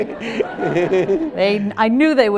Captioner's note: audience laughing